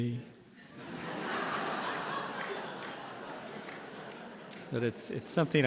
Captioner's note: laughter